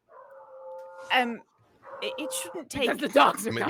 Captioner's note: dogs barking